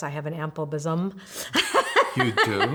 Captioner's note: laughing